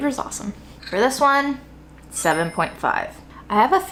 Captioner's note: chimes tinkling